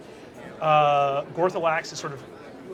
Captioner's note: sound of cafe patrons chattering